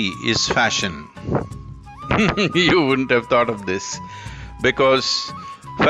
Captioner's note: laughs